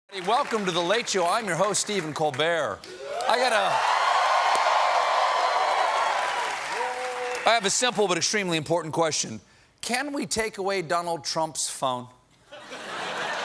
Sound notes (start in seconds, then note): 2.8 cheers and applause